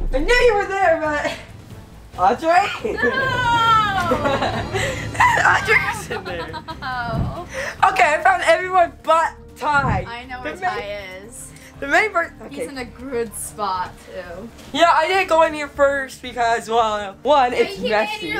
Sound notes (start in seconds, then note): 4.4 laughs